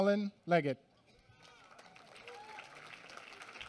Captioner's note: applause